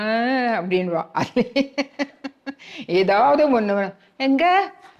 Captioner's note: laughs